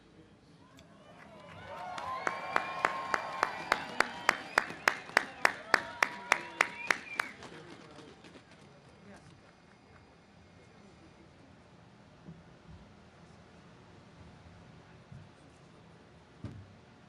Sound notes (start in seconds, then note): 0.9 audience cheers